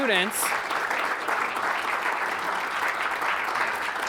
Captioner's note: audience applauding